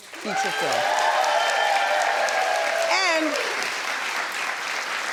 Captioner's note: audience cheers